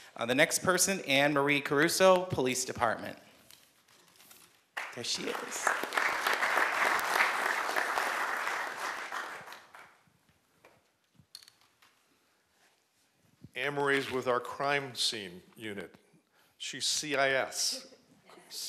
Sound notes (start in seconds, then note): 4.7 applause